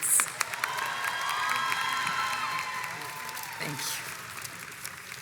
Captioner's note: crowd cheers and applauds